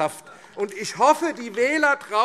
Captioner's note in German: Beifall AfD